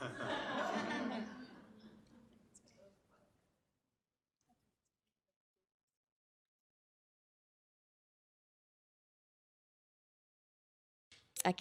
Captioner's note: laughter